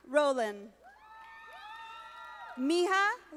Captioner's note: audience applauding